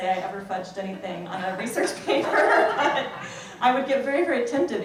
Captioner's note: laughs